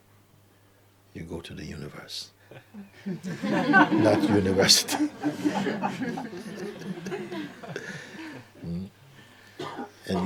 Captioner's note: laughter